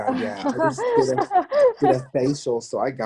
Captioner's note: chuckles